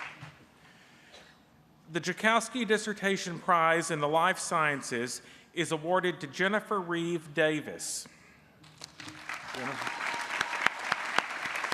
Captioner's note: applause